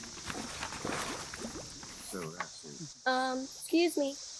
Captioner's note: water splashing, bubbling